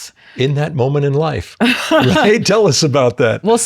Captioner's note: laughs